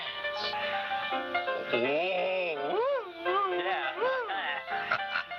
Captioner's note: whistles